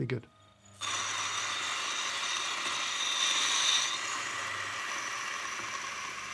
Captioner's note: grinder whirring; beans grinding